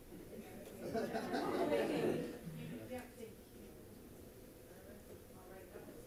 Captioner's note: laughing and chatter